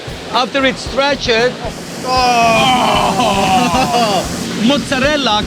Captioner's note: cheers in awe